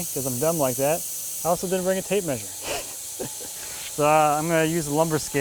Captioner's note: laughs